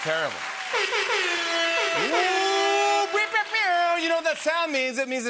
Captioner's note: air horn blows